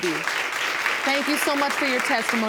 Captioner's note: audience applauds